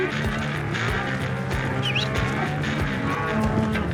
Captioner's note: whistles